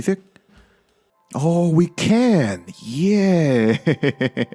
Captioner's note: laughs in satisfaction